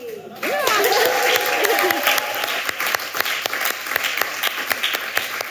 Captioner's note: audience cheering and applauding